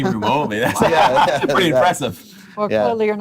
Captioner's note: laughing